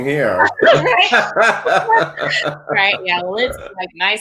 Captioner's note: laughs